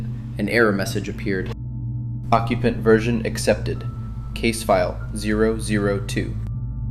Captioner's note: mechanical whisper